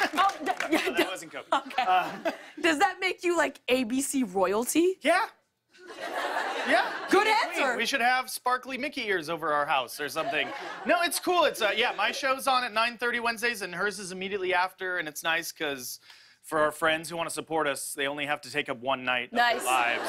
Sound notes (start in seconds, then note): 5.8 laughter; 19.4 laughter